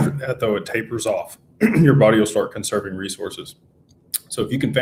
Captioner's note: clears throat